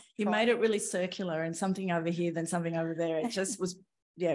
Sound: none

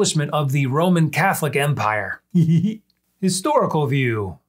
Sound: laughs

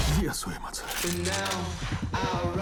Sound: guns click

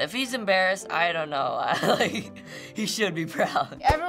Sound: chuckling

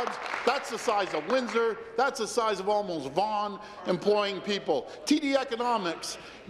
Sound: applause

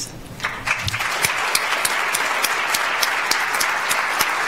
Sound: audience applauds

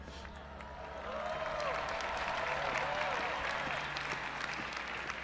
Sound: audience applauding and cheering

